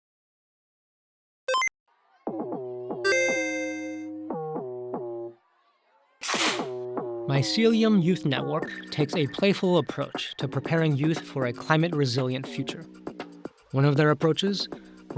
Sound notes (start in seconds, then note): 3.0 game chiming; 6.1 everyone claps